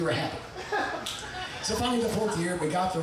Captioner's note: audience laughing